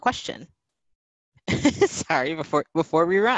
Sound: laughing

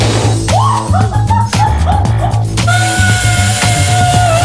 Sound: girl laughs

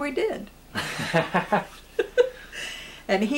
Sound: laughter

